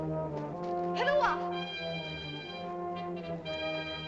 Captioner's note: ominous music; girl speaks in caveman language; suspenseful music